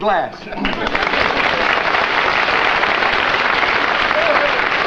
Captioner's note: applause